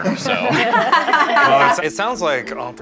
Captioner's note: all laughing